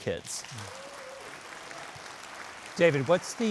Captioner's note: audience applauding